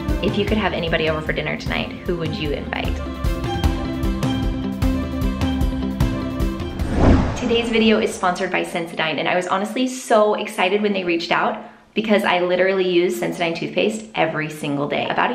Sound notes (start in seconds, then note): 3.1 bright music; 6.6 air whooshing